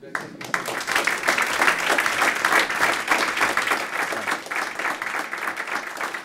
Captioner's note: applause